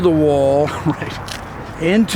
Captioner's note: laughs